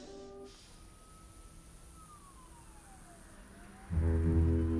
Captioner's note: distant sirens approaching; ominous music